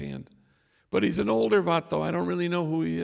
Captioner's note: non english speech